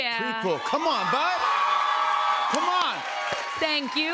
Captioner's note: cheers and applause